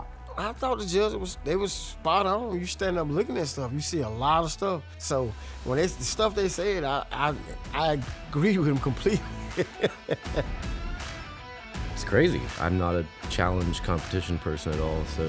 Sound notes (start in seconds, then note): 9.0 laughs